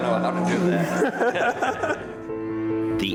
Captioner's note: laughing